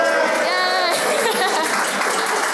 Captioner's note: cheers and applause; laughs; cheers and applause